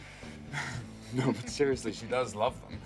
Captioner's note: chuckling